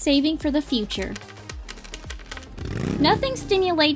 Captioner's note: coins Clunking